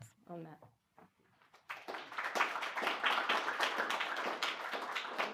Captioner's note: applause